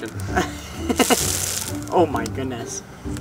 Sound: laughing

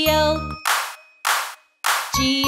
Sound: hands clap

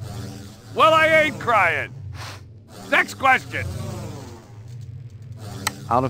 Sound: sniffs

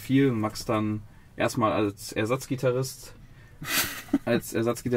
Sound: laughter

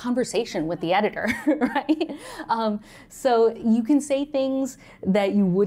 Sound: laughter

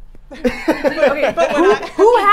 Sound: laughing

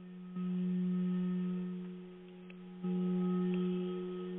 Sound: vibrating tone

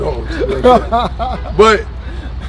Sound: laughing

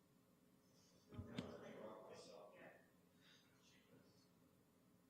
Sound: background chatter

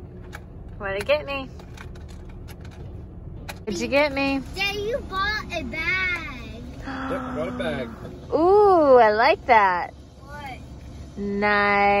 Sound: gasps

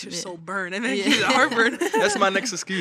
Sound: chuckles

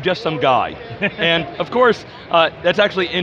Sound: laughter

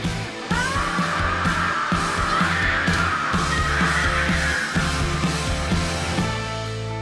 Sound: screaming

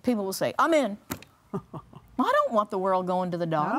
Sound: laughs

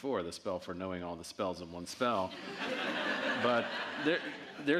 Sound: audience laughing

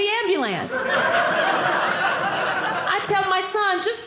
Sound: audience laughing

